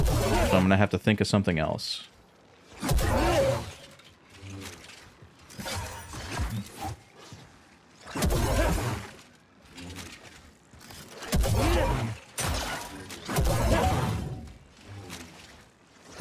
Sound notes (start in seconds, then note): 2.8 gunshots; 8.1 gunshots; 11.2 gunshots